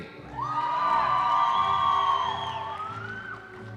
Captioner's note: cheering